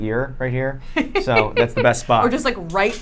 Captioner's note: laughs